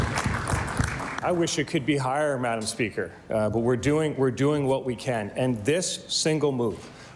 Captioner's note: applause